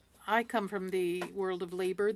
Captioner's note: speaking French